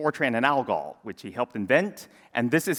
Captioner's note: none